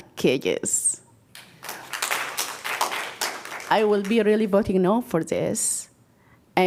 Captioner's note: applause